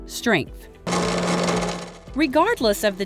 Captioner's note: machine vibrating